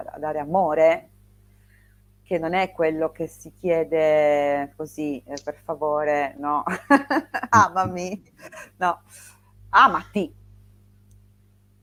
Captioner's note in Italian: risate